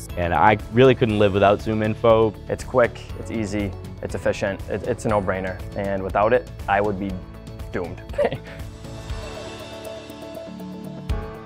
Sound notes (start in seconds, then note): 8.1 chuckles; 8.7 light music